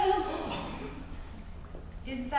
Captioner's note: gasps